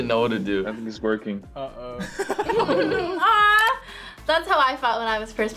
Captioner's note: laughs